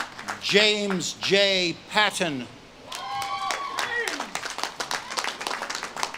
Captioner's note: audience claps and cheers